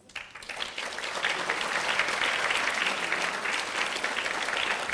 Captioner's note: audience applauding